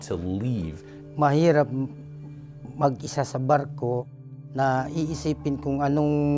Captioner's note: speaks in foreign language